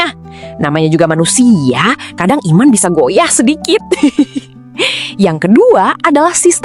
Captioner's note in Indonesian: tertawa